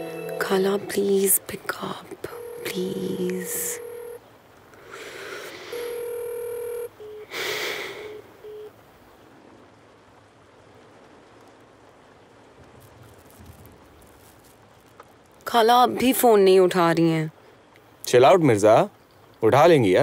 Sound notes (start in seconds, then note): 5.7 Phone ringing